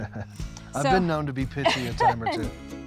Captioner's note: chuckling